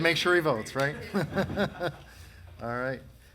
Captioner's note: laughs